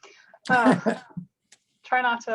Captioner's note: laughs